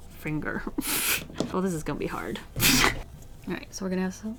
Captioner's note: laughs